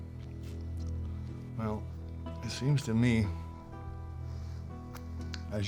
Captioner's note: scottish accent